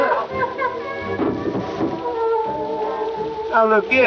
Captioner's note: object thudding